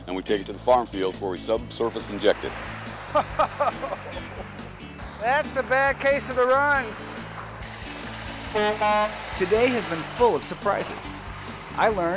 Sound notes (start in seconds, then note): 3.0 laughter; 8.4 truck horn